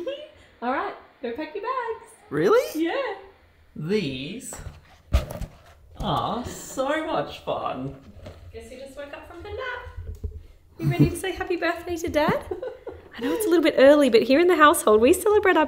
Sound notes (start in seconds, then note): 1.7 giggling; 13.2 laughing